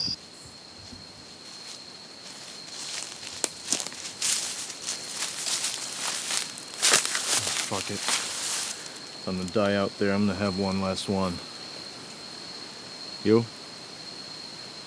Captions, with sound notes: (underbrush rustling) - Fuck it. If I'm gonna die out there, I'm gonna have one last one. You?